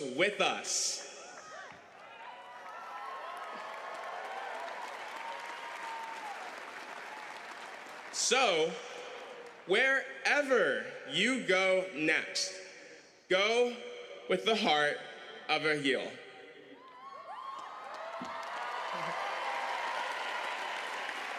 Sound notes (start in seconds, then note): 6.0 cheering